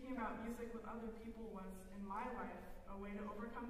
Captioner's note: none